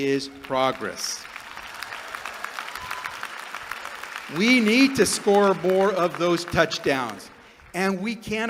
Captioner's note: applause